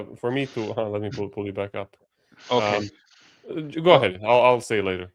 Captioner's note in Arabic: يضحك ساخرًا